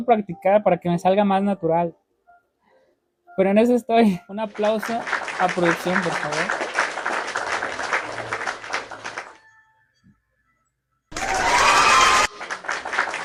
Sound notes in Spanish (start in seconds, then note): 4.5 aplausos